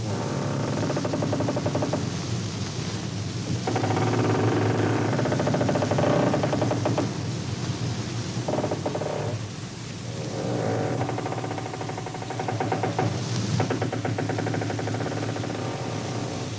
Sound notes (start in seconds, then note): 2.0 bridge creaking; 10.0 bridge creaking